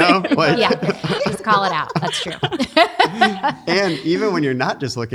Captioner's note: laughs